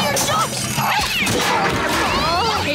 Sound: screeching

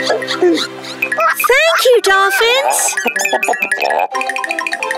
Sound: all chittering

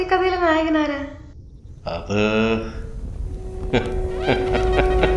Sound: grandpa Laughing

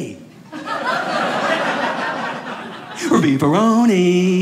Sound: audience laughing

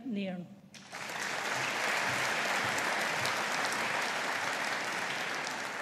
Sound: audience applauding

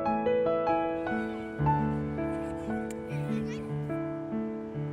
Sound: children laughing and playing

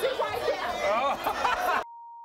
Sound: laughing; beeping

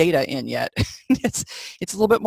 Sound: laughs

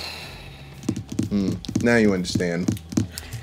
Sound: fingers rapping

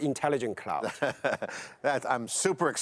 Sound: laughs

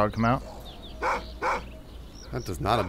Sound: dog barks

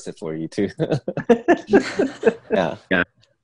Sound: everyone laughs

